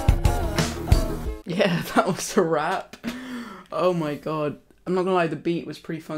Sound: laughs

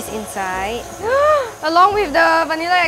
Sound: gasp

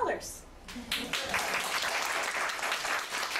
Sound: audience applauding

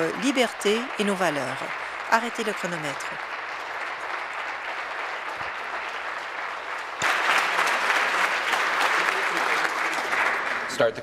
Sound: applause

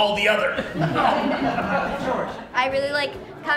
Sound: laughter

